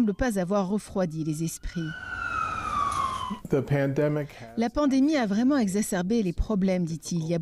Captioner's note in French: sirène